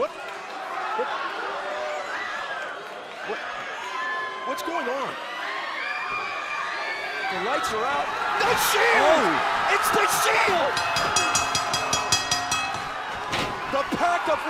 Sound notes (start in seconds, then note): 4.2 crowd chatter; 10.7 bell ringing